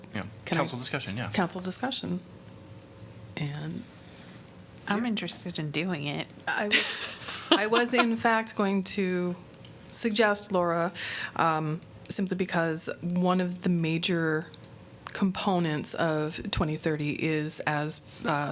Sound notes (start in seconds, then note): 6.7 laughter